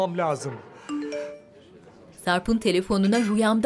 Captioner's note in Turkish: Telefon mesaj sesi